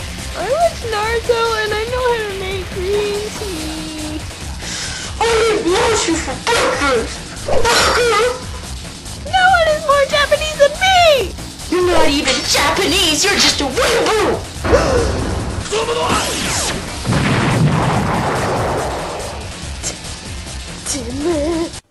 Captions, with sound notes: i watch naruto and i know how to make green tea ...I EAT MOCHI FOR BREAKFAST.. BAKA.. NO1 IS MORE JAPANESE THAN ME!!!! ur not even japanese ur just a weeaboo.. [gasp] [explosion] tch...... teme...............